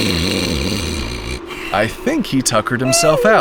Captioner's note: snoring: Honk Shoo mimimimi